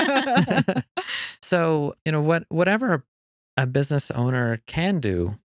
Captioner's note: laughing